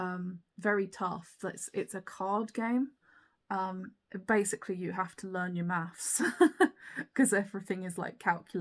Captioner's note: laughs